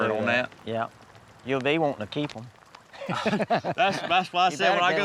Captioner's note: laughs